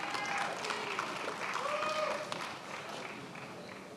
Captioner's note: attendees applauding